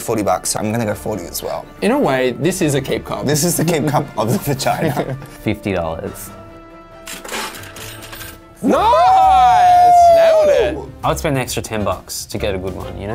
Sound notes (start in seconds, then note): 4.2 laughs; 7.0 change dispensed sound effect; 8.6 cheering